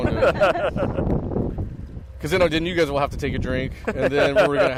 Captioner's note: laughs